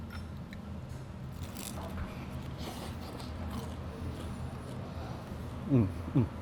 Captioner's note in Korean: 바사삭